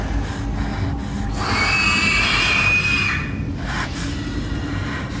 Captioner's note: heavy breathing